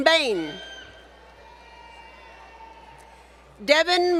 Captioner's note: applause